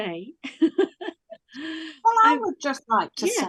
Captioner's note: laughs